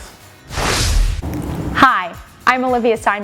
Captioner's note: graphics whooshing